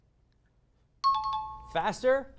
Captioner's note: high-pitched tones